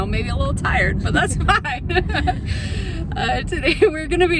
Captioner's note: laughs